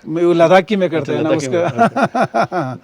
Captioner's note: laughs